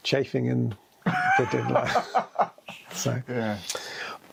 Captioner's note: both laughing